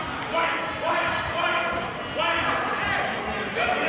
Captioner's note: yelling